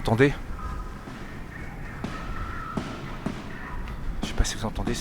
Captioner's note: gun Shots and Screaming